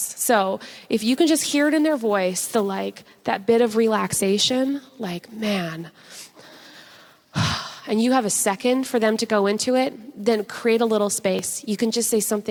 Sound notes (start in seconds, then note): 5.6 sighs